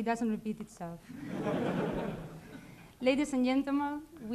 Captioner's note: laughter